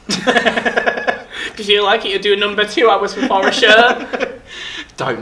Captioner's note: laughing; laughs